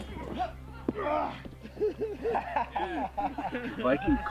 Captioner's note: groans; laughing